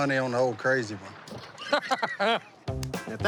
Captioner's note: laughs